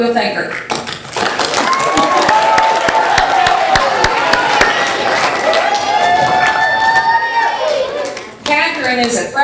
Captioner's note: audience applause